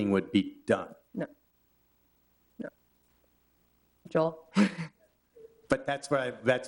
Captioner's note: chuckles